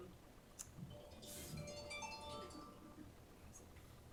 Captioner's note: cell phone jingle